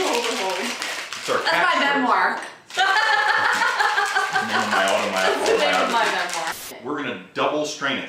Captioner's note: laughing